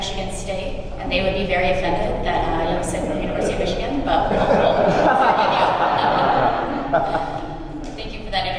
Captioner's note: laughter